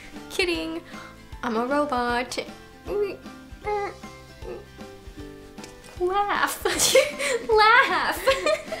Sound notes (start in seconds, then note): 2.7 makes robot sound effects; 6.6 laughs; 8.1 both laugh